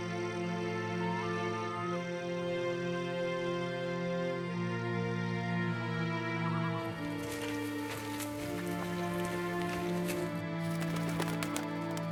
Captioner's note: birds call